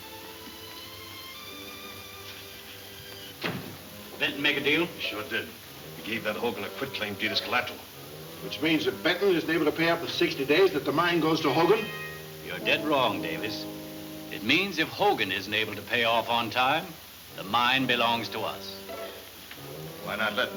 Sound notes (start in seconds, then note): 0.7 pens scratches on paper; 3.3 door slams